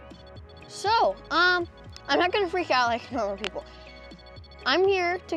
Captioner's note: REM-Pod sounds with flashing lights